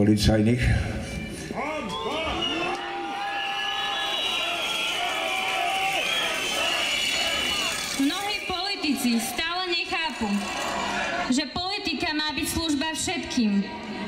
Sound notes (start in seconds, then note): 1.5 crowd shouting ''Shame!''